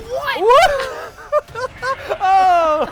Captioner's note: laughter